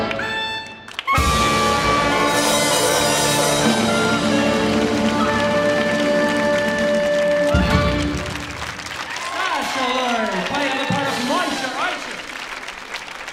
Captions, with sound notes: (audience applauding) (audience cheering) Sasha Lurje! Standing in for Moishe Oysher.